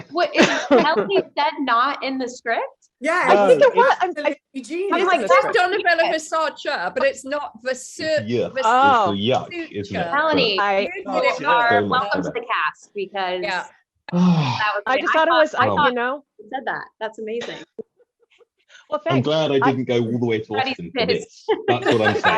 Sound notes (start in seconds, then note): 14.1 Freddy sighs